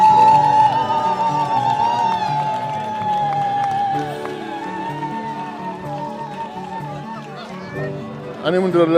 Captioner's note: cheering